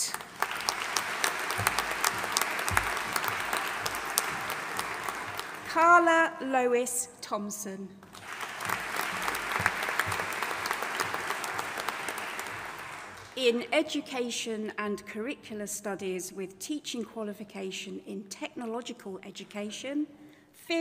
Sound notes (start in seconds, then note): 0.0 audience applauding; 8.0 audience applauding